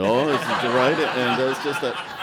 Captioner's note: laughter